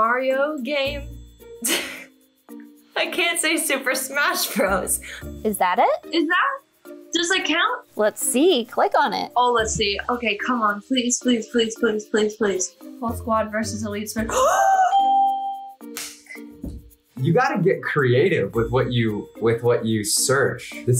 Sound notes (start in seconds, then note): 1.5 laughs; 14.9 bell rings; 15.4 gasps